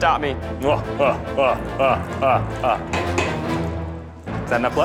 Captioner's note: cackles maniacally